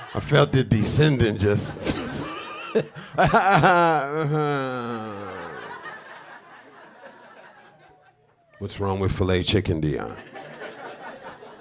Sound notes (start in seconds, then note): 1.5 chuckling; 3.7 groaning; 5.1 audience laughing